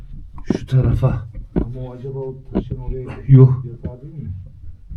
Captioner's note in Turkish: boğazını temizler